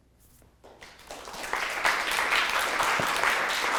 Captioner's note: applauding